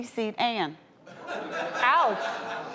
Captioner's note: audience laughs